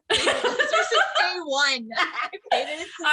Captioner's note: laughter